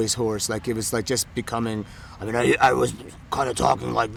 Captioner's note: hoarsely